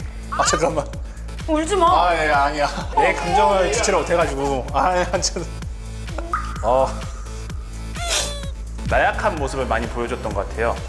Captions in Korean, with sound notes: 잠깐만 울지 마 아니야 내 감정을 주체를 못 해서... [(훌쩍)] 나약한 모습을 많이 보여줬던 것 같아요